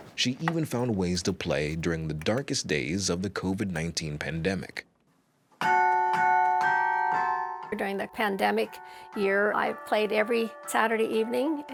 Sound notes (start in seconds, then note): 5.6 bells ringing